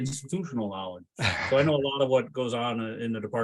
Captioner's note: laughs